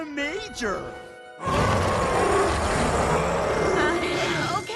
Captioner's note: roars